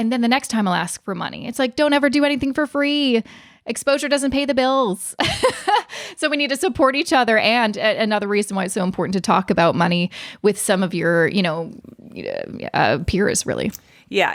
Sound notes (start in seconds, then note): 5.2 laughs